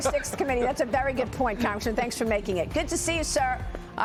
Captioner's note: laughter